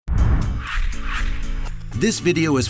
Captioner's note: sound effects